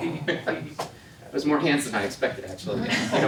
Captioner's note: laughs